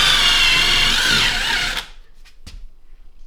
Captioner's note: drill Whirring